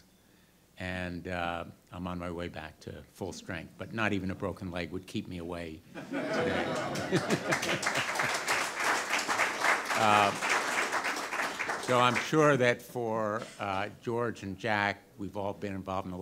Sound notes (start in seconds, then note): 7.7 audience laughter and applause